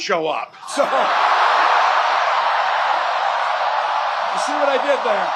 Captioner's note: crowd cheers, applause